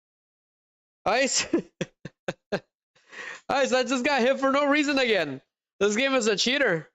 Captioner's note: laughter